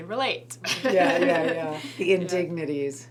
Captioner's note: laughs